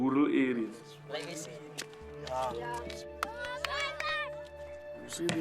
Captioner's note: speaking foreign language